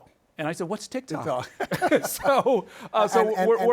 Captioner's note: laughing